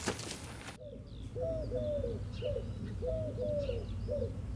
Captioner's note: dove cooing